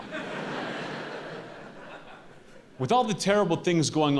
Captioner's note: audience laughing